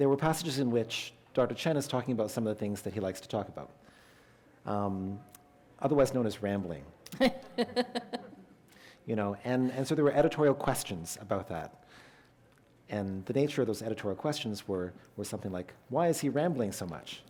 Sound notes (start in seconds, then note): 7.1 chuckle